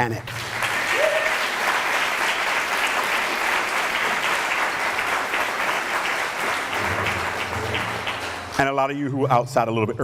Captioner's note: applause